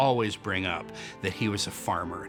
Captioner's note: none